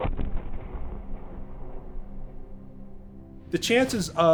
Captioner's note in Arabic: دوي مدوي